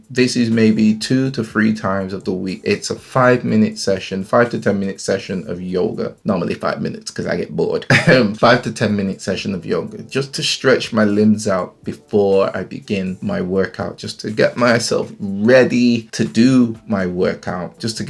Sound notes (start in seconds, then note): 7.8 laughs